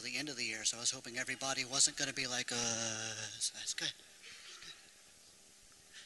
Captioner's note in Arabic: يقلد صوت الزومبي